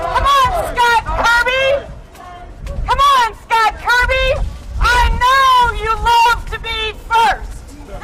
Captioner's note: shouting